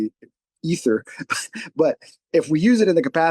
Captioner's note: chuckles